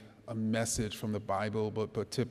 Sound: none

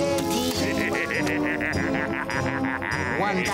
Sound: laughing

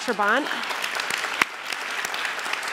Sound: applause

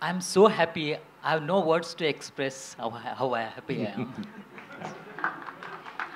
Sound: Sadhguru laughs

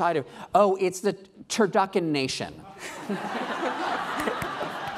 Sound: laughing

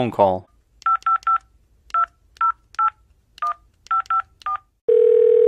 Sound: dialing phone; phone ringing

